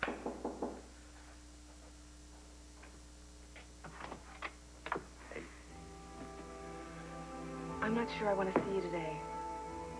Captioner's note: knock on door